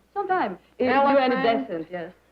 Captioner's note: chatter